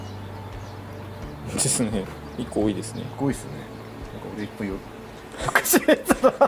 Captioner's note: laughs